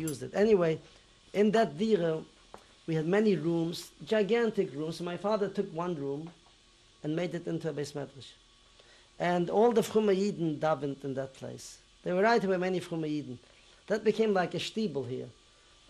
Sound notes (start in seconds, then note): 9.8 non-english; 13.1 non-english